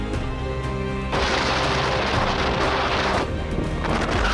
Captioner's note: wind blowing